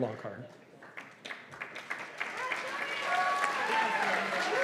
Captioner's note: cheers and applause